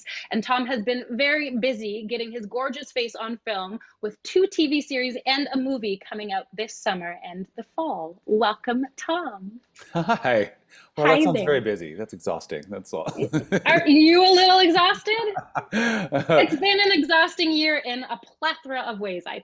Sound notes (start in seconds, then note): 9.8 chuckles; 12.9 laughs